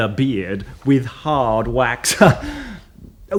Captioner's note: chuckles